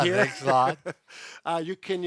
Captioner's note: laughs